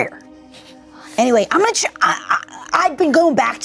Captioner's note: stutters; stutters